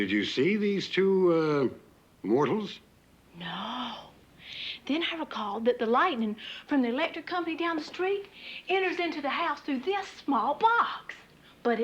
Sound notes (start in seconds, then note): none